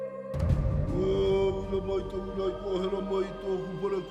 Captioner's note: recites karakia